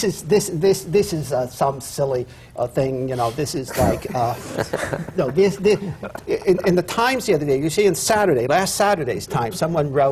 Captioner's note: laughter